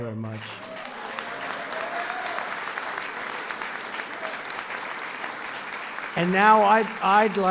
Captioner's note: applause